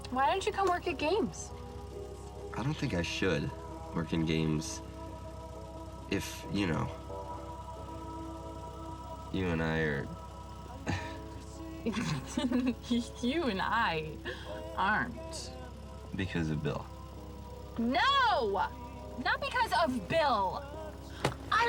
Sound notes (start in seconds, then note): 11.6 laughs